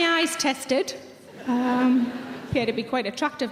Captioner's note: audience laughing